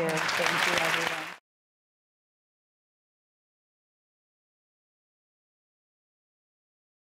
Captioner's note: audience applause